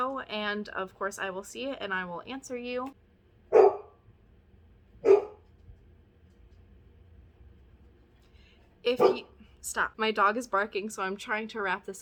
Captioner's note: Quibbler barks; barks again